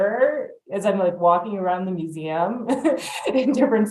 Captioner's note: laughs